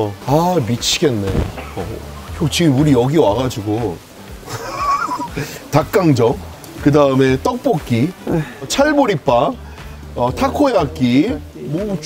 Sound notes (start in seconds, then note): 4.4 laughing